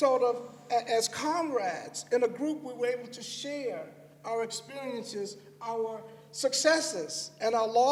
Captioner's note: none